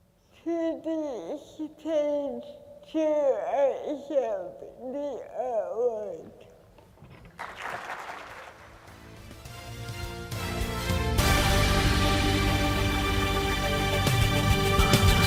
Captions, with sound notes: to the stage to accept the award. (applause) (upbeat music)